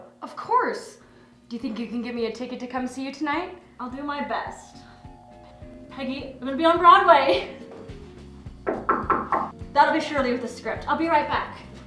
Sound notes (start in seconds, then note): 4.8 upbeat jazzy music; 8.6 loud knocking